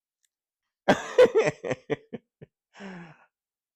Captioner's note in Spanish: riéndose